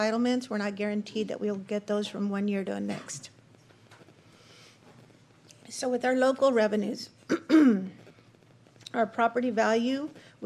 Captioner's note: clears throat